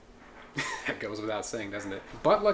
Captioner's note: chuckles